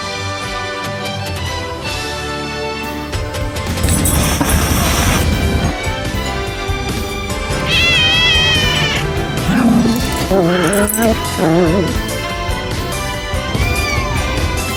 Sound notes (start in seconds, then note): 3.7 hisses; 7.5 meows; 7.5 Ella growls; 13.3 meows